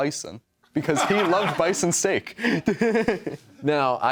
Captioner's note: laughter